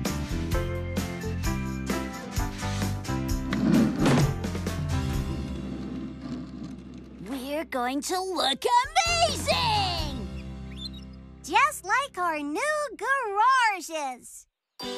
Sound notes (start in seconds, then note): 3.5 thump!